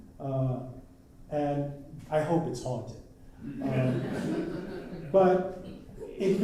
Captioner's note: laughter